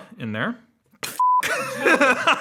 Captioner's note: beep; laughing